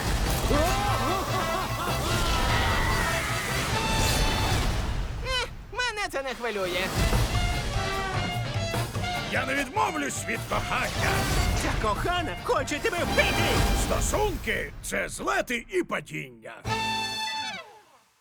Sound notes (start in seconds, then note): 1.0 sinister laughter; 2.2 yelling; 6.9 jaunty music plays